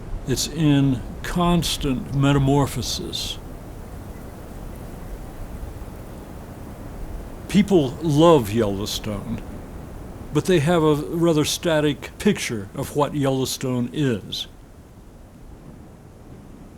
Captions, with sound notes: It's in constant metamorphosis. (wind swooshes) (bird trills) People love Yellowstone, but they have a rather static picture of what Yellowstone is.